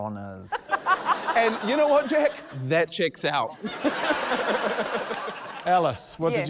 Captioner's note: laughter